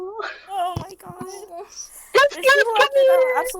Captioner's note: quiet aww